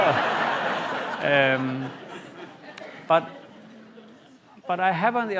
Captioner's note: laughter